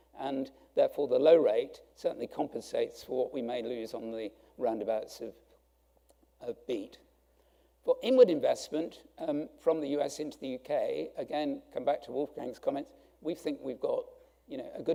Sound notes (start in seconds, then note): none